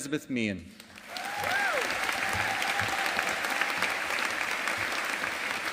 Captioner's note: audience applauding